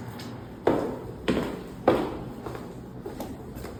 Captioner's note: footsteps